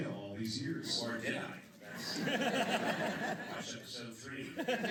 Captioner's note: laughter